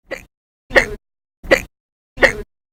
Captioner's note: hic!